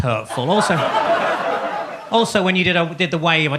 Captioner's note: audience laughs